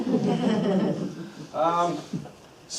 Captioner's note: group laughter